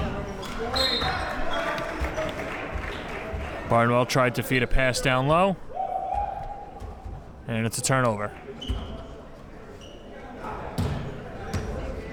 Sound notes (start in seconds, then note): 0.8 whistle blows; 1.5 crowd claps